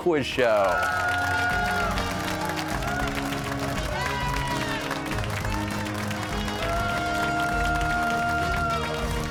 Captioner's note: cheers and applause